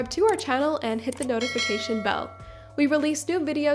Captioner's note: mouse clicking; bell ringing